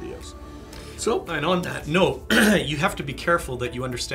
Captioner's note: clears throat